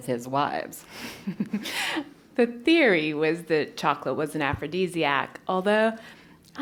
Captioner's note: laugh